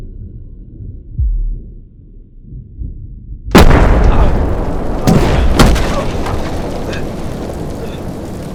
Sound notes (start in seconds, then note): 3.5 explosion